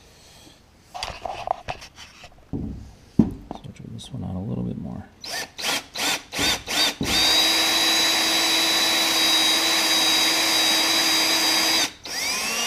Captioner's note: drilling noise